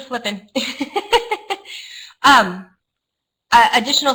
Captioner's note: laughter